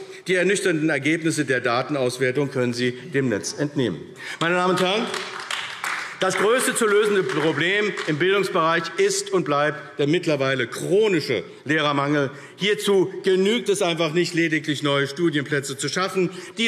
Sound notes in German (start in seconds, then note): 4.4 Beifall AfD